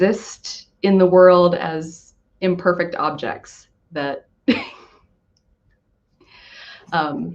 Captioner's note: laughs